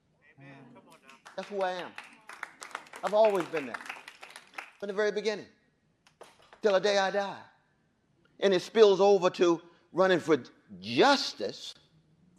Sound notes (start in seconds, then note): 0.8 applause